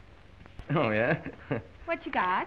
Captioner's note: chuckles